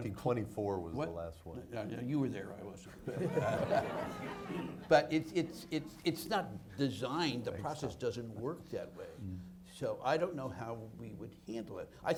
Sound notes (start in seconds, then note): 3.0 audience laughs